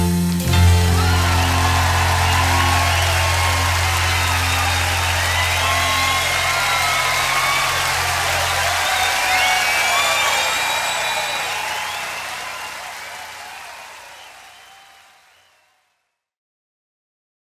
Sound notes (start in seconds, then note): 1.0 crowd cheering